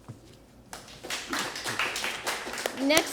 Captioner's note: applause